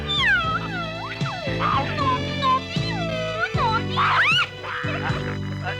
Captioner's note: giggling